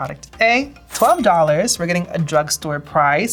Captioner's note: cash register dings